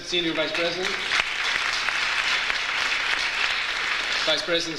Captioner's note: audience applauds